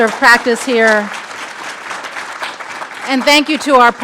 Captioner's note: audience clapping